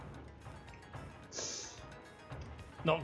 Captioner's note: sharp intake of breath